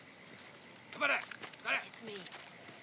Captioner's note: shouting in Japanese